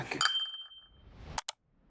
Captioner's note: bell dings